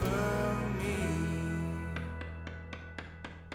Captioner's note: hammering